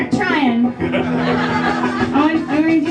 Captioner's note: crowd laughing